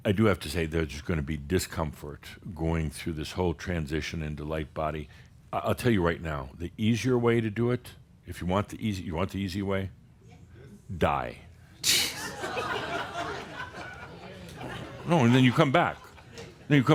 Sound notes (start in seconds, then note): 12.0 laughter